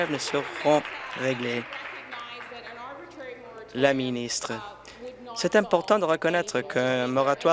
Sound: applause

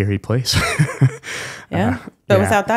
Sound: laughs

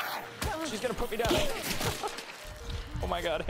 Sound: laughs

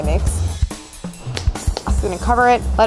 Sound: smacking dough

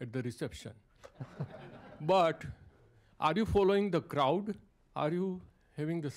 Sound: laughter

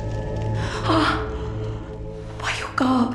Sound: sigh of relief

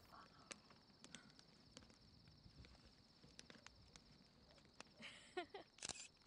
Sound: crickets chirping; fire crackling

